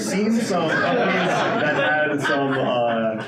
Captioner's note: laughing